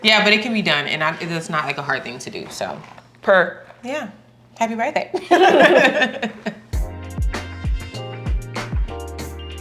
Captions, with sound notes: - Yeah, but it can be done and I think it's not like a hard thing to do. So- - Perk. - Yeah, happy birthday. (laughs) (upbeat music)